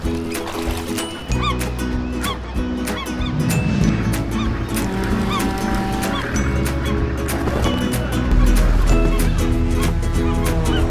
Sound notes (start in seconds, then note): 0.1 splash; 1.9 seagulls overhead